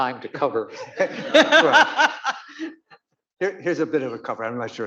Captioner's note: audience laughing